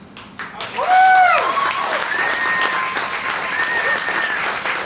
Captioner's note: cheering and applauding